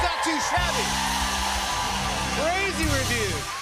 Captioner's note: cheers and applause